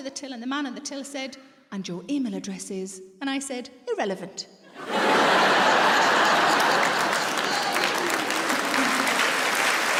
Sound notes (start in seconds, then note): 4.7 audience laughs; 6.9 audience applauds